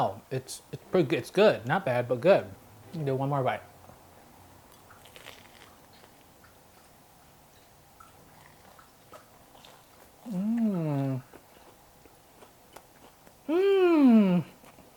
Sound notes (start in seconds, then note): 4.9 crunch; 8.0 chewing